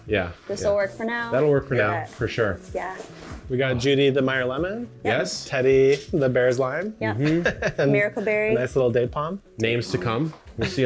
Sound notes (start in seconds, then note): 7.2 chuckling